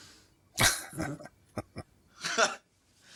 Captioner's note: chuckling